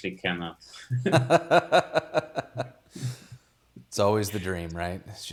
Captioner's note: both laughing